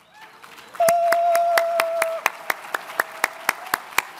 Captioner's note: all cheer